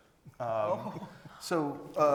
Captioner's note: laughs